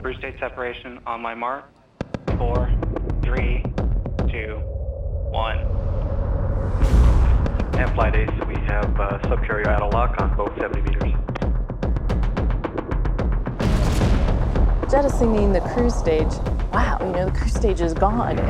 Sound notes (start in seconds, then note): 5.9 rocket roaring; 13.6 rocket roaring